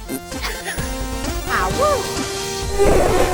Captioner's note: Puppy Fractic Farts